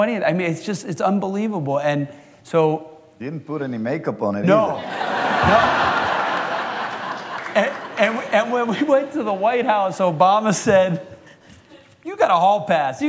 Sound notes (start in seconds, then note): 4.7 laughter